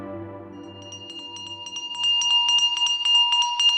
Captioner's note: ice cream vendor bell tinkling